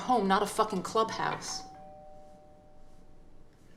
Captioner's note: doorbell rings